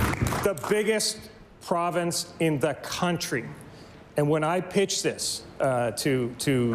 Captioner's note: applause